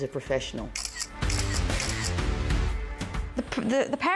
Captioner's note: camera clicking; upbeat rock music